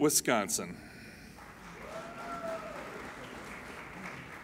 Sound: applauding

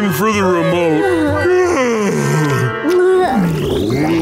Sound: yawning

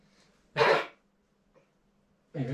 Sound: sneeze

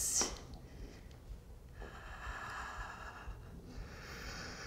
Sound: breathing

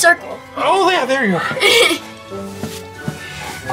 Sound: chuckles; tense music

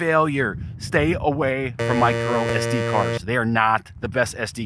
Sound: electronic buzzing

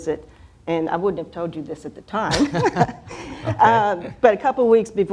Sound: laughter

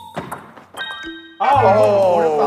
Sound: V ball bounces up

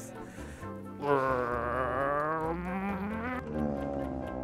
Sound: growls

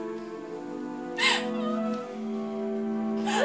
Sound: cries

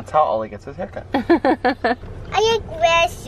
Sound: laughing

